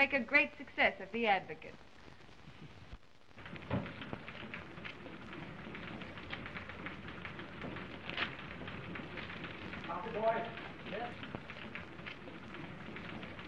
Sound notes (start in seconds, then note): 1.7 typewriter clacking; 6.0 paper tearing